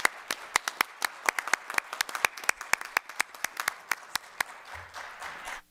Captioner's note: applause